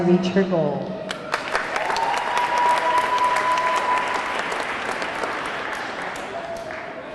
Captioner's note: audience clapping; audience cheering